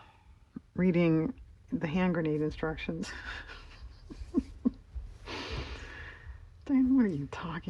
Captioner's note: laughs